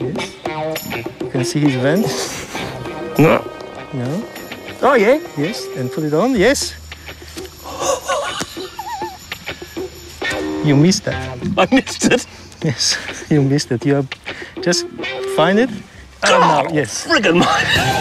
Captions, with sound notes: Yes. You can see his vent? No. No? Oh, yeah. Yes. And put it on. Yes! (Chuckles) You missed it. I missed it? Yes, you missed it. Just find it. God al-friggin'-mighty!